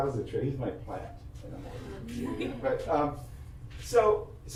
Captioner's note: audience laughs